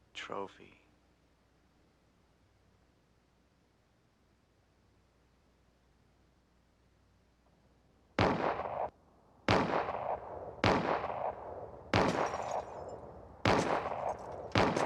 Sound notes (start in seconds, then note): 8.2 bottles shattering; 8.2 guns banging